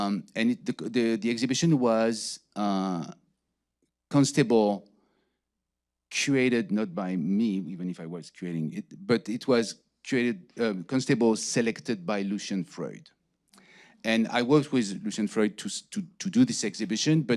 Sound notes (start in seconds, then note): none